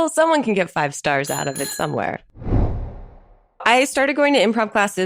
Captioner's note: bicycle bell rings